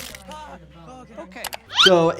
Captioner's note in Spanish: crujido de astas; paciente gimiendo